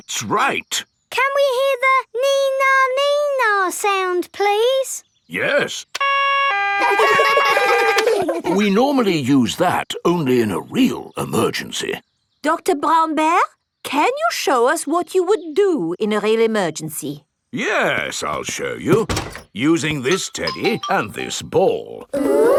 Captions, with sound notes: That's right! Can we hear the "nee-nah, nee-nah" sound, please? -Yes. -(SIREN WAILING) -(KIDS LAUGH) -(SIREN STOPS) We normally use that only in a real emergency. Dr. Brown Bear, can you show us what you would do in a real emergency? Yes. I'll show you using this teddy and this ball.